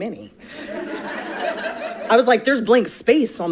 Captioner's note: audience laughing